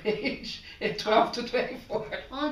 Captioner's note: laughter